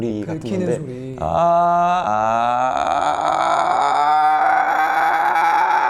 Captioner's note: screaming demonstration